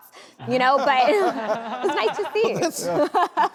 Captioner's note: crowd laughs